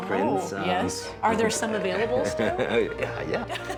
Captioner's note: laughing